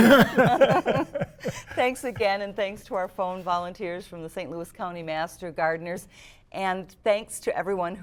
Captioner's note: laughter